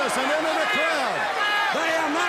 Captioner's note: crowd chatter